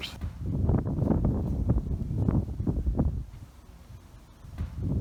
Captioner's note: wind blows